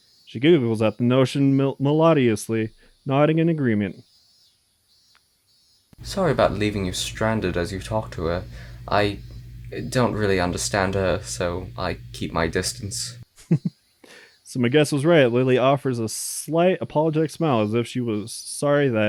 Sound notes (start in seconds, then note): 13.3 giggles